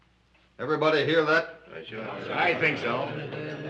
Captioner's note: all agreeing